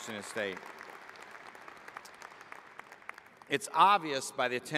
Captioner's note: applause